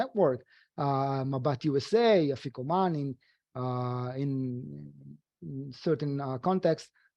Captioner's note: speaking foreign language